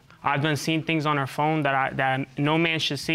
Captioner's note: stutters